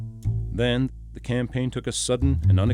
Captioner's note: voiceover